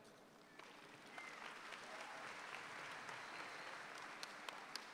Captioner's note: audience applauds